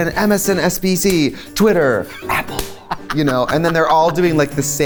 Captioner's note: whispers; laughs